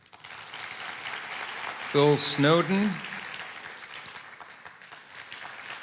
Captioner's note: applause